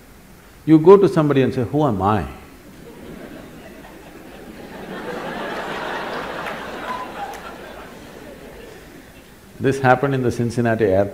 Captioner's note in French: Rire